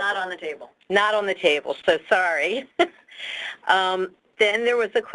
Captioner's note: laughs